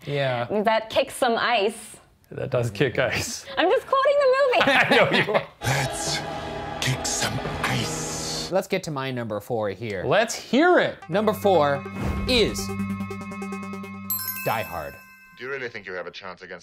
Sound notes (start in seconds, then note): 4.6 laughing; 14.0 bell ringing